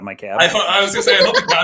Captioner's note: laughter